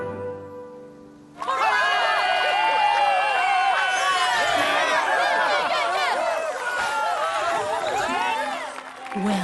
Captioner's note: cheers